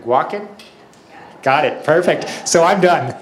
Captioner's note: audience laughs